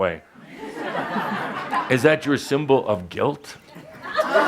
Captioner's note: laughter; more laughter